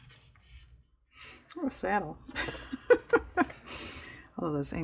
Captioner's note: laughs